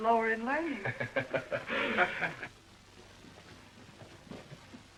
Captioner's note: laughter